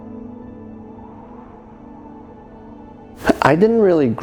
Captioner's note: wind howling